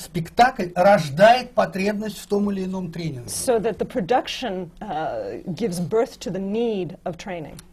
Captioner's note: foreign language not transcribed